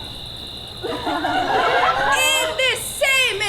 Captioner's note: audience laughs